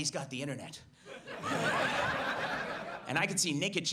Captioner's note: audience laughs